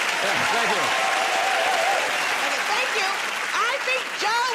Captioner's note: cheering and applause